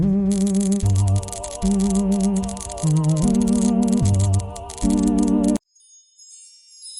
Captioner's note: electric sparks, ghoulish music